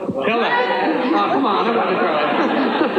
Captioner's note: laughing